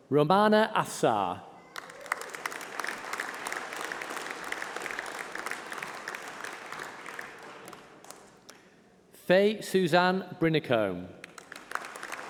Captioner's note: applause